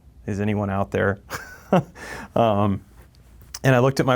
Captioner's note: laughs